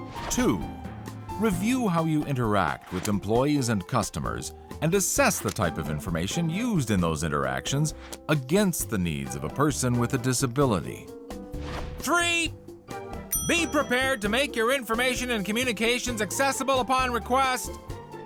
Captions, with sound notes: Two – review how you interact with employees and customers and assess the type of information used in those interactions against the needs of a person with a disability. [speaking loudly] Three – [bell dings] be prepared to make your information and communications accessible upon request.